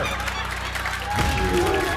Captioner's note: applause